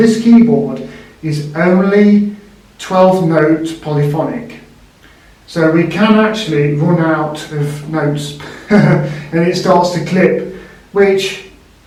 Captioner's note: chuckles